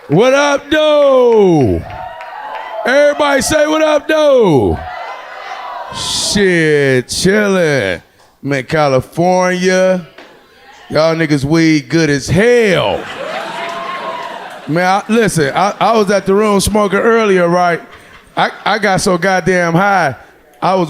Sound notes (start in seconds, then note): 4.3 crowd; 12.7 audience laughing